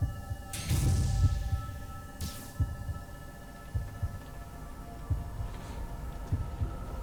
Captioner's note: heart beating